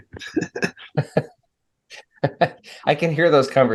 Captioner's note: panelist laughing